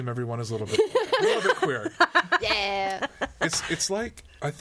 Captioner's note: all laughing